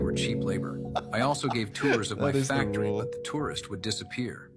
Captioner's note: laughs